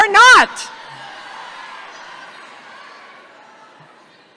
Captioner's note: audience shouting